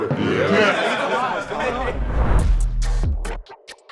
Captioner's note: laughing; upbeat music